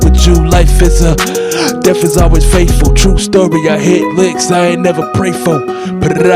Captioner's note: breath